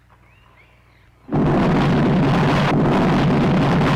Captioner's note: explosion